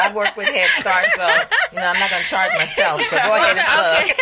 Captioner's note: laughs